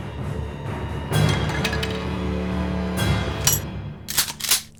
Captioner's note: stick clattering; gun clicking